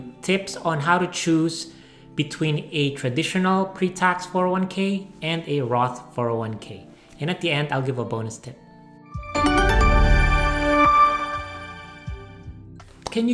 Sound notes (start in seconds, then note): 9.2 logo chiming; 11.8 upbeat music